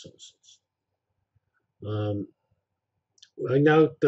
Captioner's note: pause